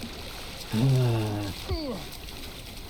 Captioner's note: annoyed sigh